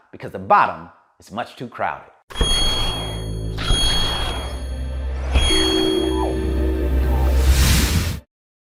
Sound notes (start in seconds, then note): 2.4 crystal humming; 2.4 air whooshing